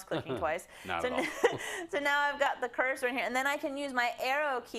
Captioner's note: laugh